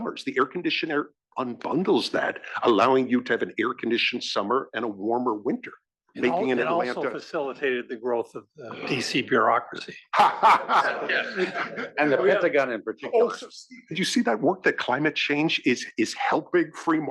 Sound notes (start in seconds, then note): 8.6 laugh